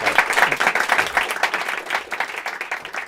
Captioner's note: applause